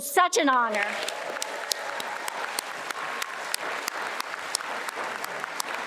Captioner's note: attendees applauding and cheering